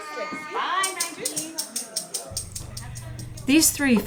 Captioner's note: rattles rhythmically